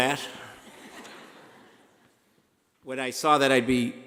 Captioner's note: laughing